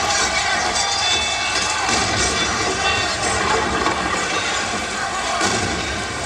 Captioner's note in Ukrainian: оплески